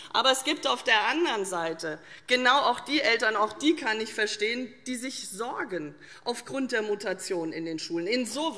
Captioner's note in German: none